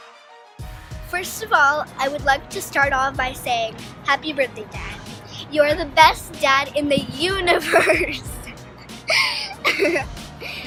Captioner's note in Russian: смеется